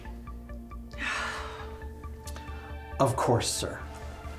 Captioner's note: Ramona sighs